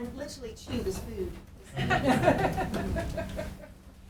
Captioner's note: laughing